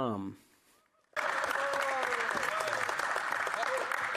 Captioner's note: speaking French